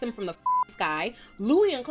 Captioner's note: beep